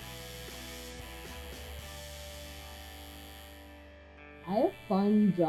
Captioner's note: tattoo gun buzzing